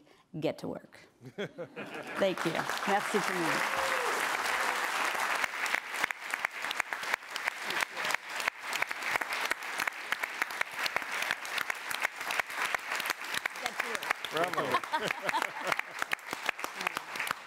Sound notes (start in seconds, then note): 3.1 applause